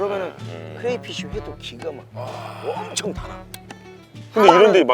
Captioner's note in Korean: 감탄